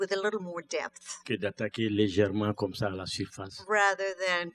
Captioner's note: speaking french